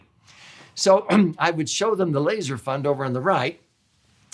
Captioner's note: clears throat